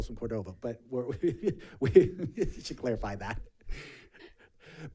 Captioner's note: chuckles